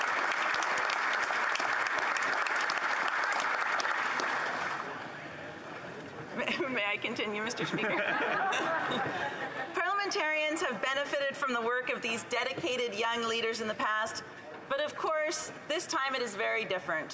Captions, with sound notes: >> SLAVA UKRAINI! >> SLAVA UKRAINI. [ Applause ] MAY I COINCIDENT, Mr. SPEAKER? -- CONTINUE, Mr. SPEAKER?